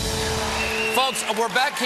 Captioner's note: applause